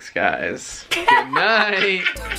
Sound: laughter

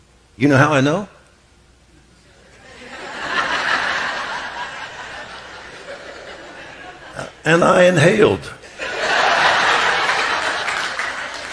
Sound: audience laughs

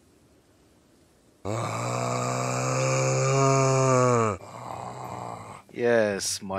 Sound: speaks in zombie

